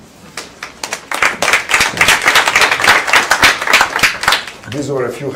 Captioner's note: applause